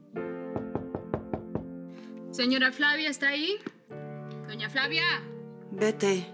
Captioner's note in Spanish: Toques en la puerta